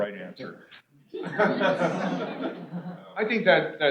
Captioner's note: laughter